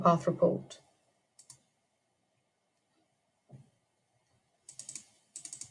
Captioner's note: mouse clicking